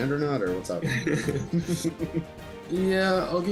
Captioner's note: both chuckle